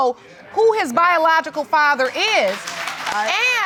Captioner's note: audience mumbling